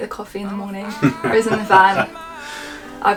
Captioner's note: laughs